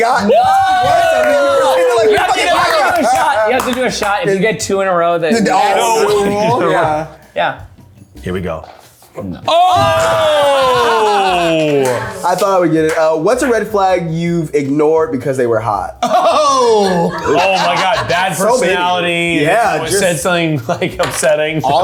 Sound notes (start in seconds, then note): 9.4 everyone yelling